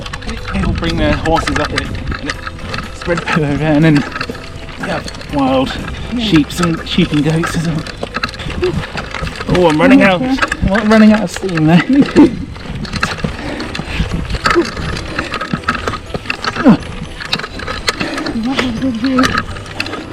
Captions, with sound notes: People bring their horses up here and they spread poo everywhere And there are wild sheep and goats as well I'm running out of steam now ... ... Me too! *grunting*